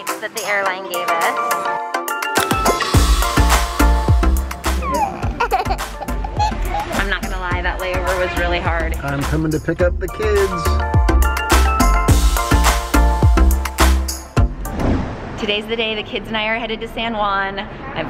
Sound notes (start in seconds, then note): 2.4 upbeat music; 4.8 giggling and laughing; 10.7 upbeat music